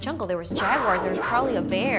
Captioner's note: bear growls; wild cat roars